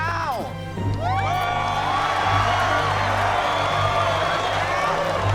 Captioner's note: cheers and applause